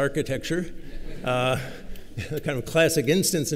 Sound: laughter

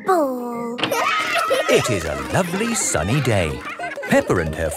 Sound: cheering

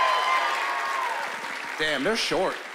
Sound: cheering and applause

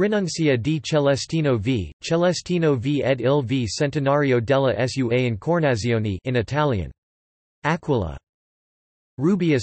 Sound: in Italian; in Italian

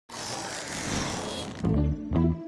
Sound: balloon Inflates

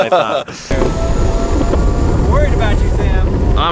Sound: laughter; skateboard rolling

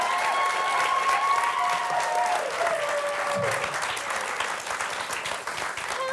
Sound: audience cheering; audience applauding

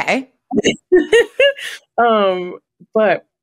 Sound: laughs

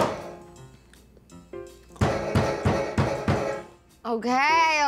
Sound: banging on door

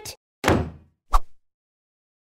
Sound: door Closed

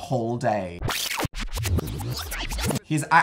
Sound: fast forward sound

